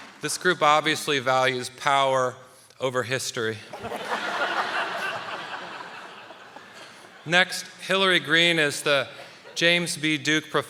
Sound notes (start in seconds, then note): 3.7 audience laughing; 3.7 panelists laughing